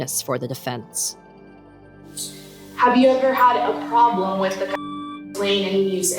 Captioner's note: beep